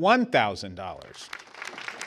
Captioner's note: applause